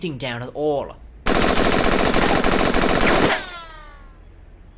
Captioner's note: gunshots